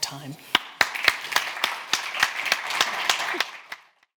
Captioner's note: audience clapping